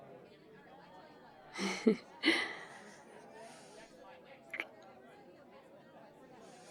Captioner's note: kiss; laughs